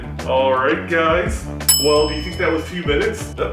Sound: timer dings

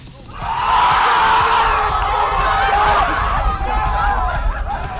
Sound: cheering

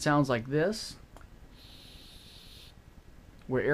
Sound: air hiss

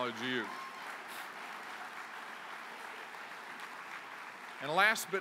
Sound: applause

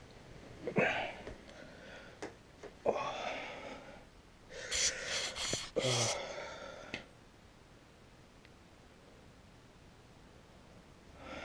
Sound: groggy groans

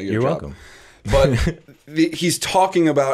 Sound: chuckle

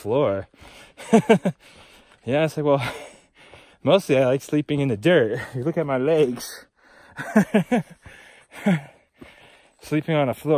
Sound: laughing

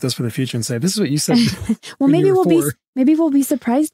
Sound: laughs

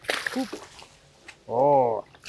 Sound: water splashing

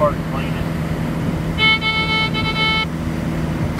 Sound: doot Doot Doot Doot Doot

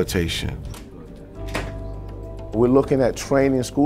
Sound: door opens

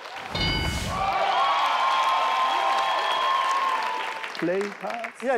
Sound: audience cheering

